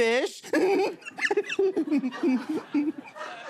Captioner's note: squirrelly laugh; laughter